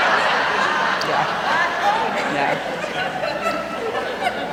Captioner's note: raucous laughter